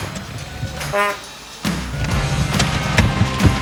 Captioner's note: horn beeps